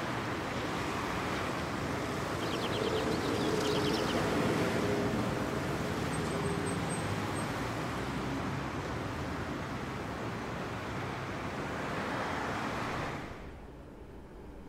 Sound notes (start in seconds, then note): 0.0 traffic humming; 2.3 birds chirping